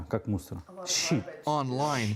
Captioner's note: speaking foreign language